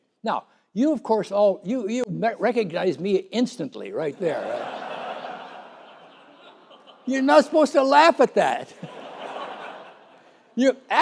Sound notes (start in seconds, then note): 4.2 laughter